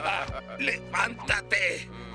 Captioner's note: laughter